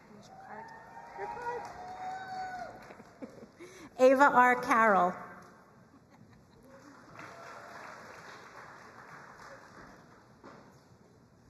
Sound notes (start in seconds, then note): 6.6 crowd applauding